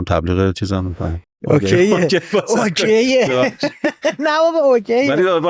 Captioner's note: laughs